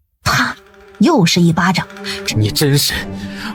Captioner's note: wham!